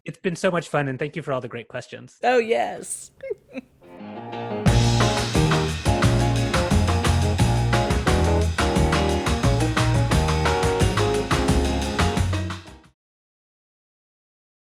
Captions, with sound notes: - It's been so much fun. And thank you for all the great questions. - Oh yes (laughs). (upbeat music)